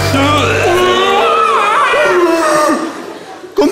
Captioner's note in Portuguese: grunhidos